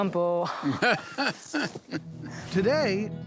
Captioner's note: laughing